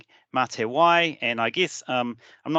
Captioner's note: speaking in te reo Maori